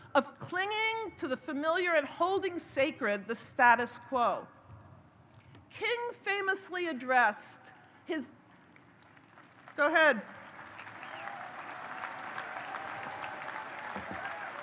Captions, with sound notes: of clinging to the familiar, and holding sacred the status quo. King famously addressed his-- (audience applauds) Go ahead. (audience cheers)